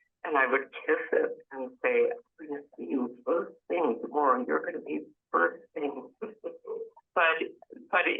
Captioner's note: laughs